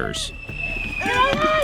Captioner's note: missile whistles